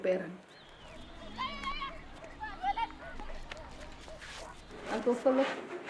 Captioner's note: children shouting